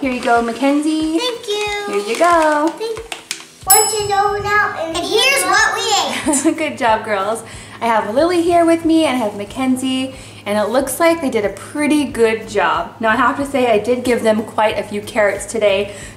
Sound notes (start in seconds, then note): 3.6 timer dings; 7.1 laughing